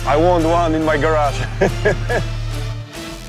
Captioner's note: laughs